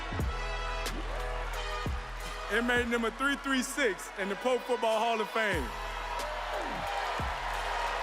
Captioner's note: cheers and applause